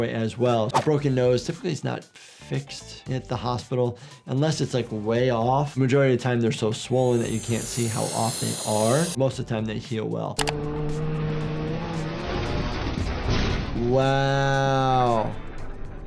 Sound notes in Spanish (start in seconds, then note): 10.1 el motor ruge